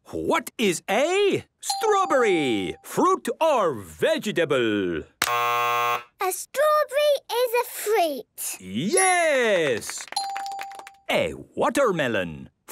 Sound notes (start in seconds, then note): 5.2 buzzes; 9.5 clapping